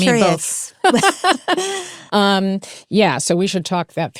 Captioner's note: both laugh